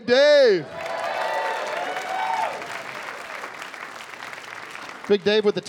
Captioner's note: cheering and applause